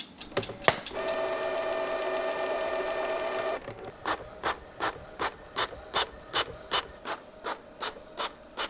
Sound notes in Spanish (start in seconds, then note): 0.0 impresora haciendo ruido; 3.4 papel crujiendo